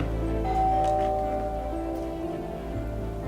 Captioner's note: door bell